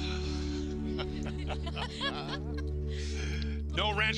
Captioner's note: group laughing